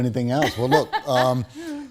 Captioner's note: laughs